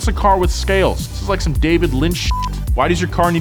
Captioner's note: beeps